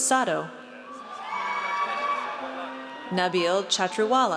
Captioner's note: audience cheers